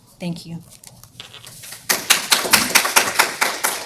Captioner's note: applause